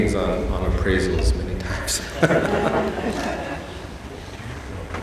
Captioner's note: all laughing